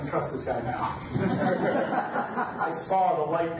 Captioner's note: audience laughs